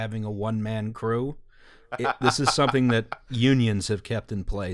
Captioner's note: deranged laughter